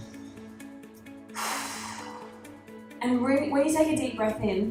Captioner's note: inhaling; exhaling